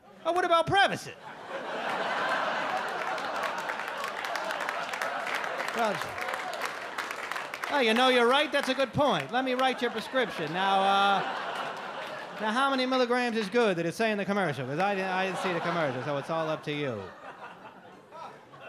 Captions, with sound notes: Oh, what about Prevacid? (audience laugh and clap) "You know, you're right. "That's a good point. "Let me write you a prescription. "Now, how many milligrams is good? "Did it say in the commercial? "I didn't see the commercial, "so it's all up to you."